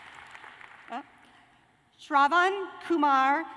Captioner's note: cheers and applause